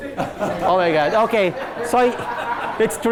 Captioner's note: class laughing